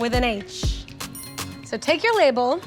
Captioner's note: bells chimes